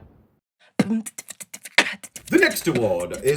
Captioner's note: beatboxing